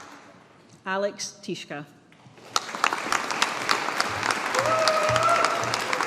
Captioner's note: audience applauding